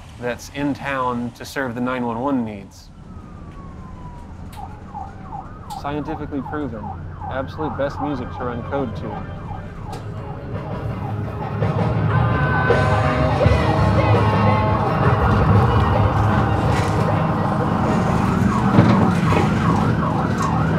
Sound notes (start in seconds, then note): 3.3 sirens